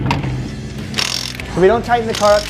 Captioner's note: wrench clicking